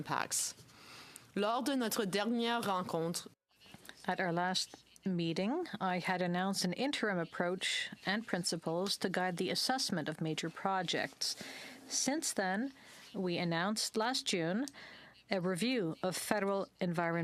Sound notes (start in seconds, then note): 7.2 speaking French